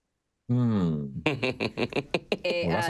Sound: laughing loudly

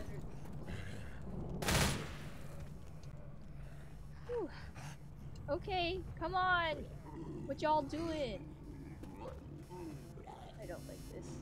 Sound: more bang bang shooty noises

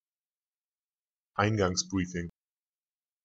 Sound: fast Pronunciation

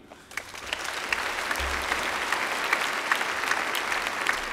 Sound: applause

